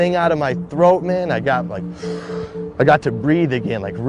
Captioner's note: inhale noise